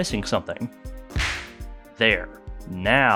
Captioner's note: smack